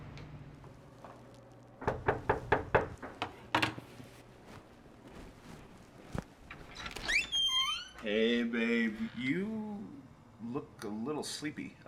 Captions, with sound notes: (someone knocking) - Hey, babe, you look a little sleepy.